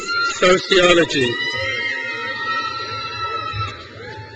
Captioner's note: crowd cheers